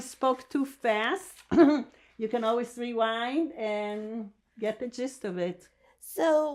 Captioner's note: laughing